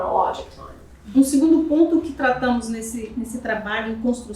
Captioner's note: speaking portuguese